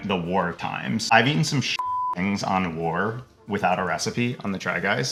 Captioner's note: beep